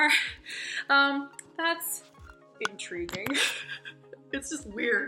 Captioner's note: laughs